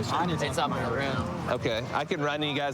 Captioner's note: none